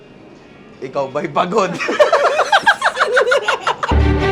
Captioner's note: laughter